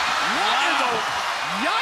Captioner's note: crowd cheering